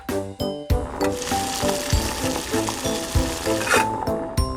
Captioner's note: water boiling